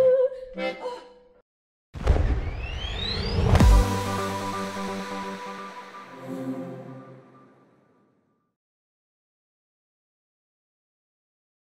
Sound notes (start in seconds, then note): 0.4 yodeler gasping; 4.6 techno whooshing